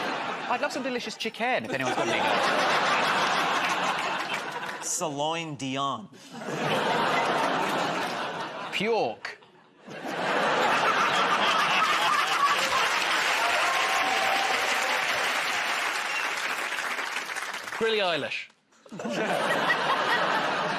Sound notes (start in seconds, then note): 1.8 laughter; 6.2 laughter; 13.7 cheers and applause; 18.8 laughter